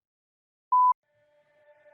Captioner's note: beep